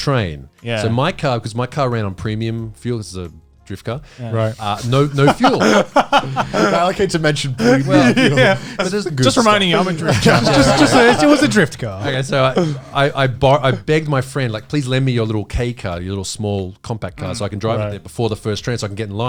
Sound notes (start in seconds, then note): 10.9 speaking in foreign language